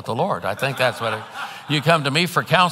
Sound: congregants laughing

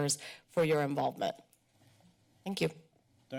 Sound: pause

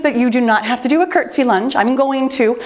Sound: timer beeps

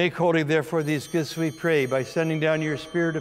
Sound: bells ringing

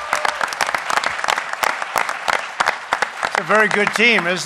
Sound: applause

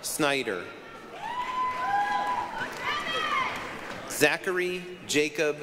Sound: applause, cheering

